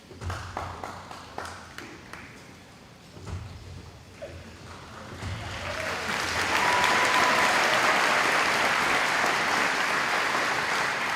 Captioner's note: applause